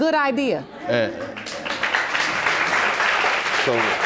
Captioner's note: audience applauds